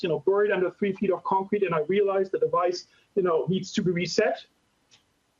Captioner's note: none